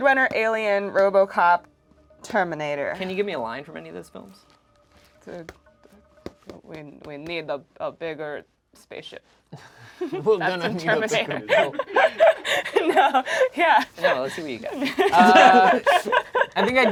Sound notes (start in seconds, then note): 10.1 overlapping chattering; 10.4 laughs